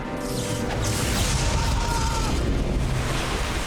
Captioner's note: guard screams